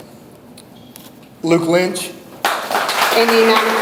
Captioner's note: audience applauds